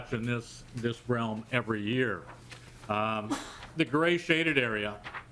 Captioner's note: laughter